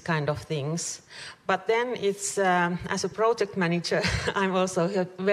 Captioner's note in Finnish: chuckles